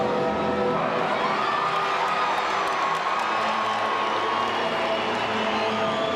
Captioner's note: dramatic music; crowd chattering